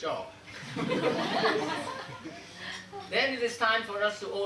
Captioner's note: audience laughing